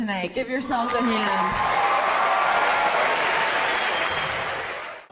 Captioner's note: applause